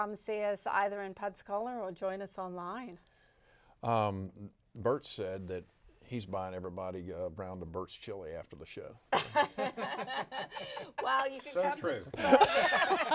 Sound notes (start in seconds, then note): 9.8 all laughing